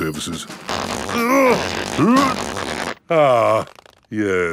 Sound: grunting

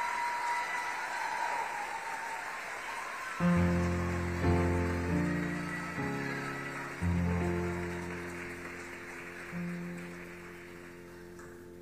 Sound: applause

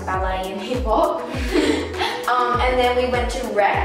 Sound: both laugh

